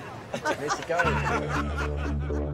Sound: players and dealer laughing; jazzy music

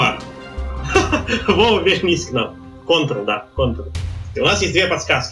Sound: laughs

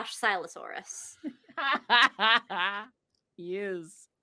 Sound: laughs

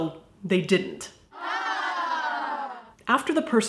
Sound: disappointed crowd

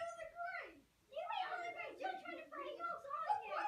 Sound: kids arguing in background

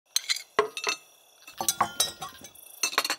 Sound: silverware clicking

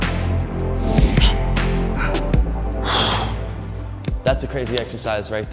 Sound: huffing

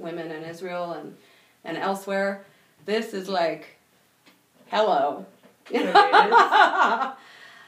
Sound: laughing

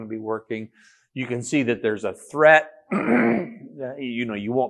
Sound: coughs

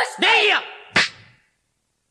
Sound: SFX: slap

